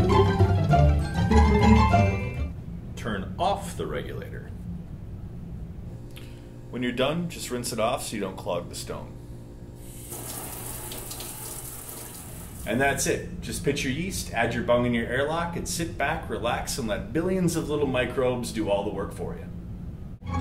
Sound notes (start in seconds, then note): 0.0 melodic interlude music; 9.8 sound of rinsing water in sink